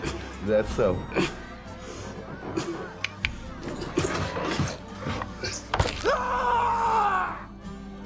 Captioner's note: Pinkerton Agent McGuire grunting softly; flesh squelching; knife thudding; Pinkerton Agent McGuire shrieking